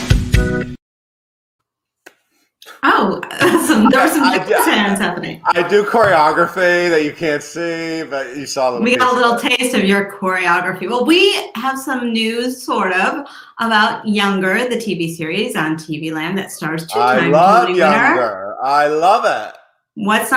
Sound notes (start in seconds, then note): 3.3 laughs